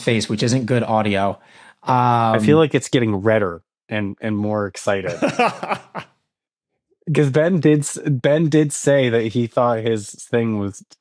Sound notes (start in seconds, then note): 5.1 laughs